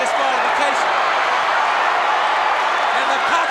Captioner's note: crowd cheers